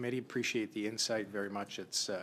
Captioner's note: speaking French